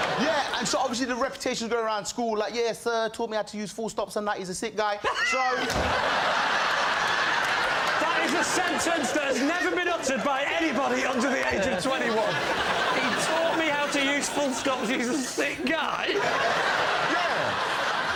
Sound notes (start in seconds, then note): 4.9 laughter; 12.6 mockingly; 15.7 laughter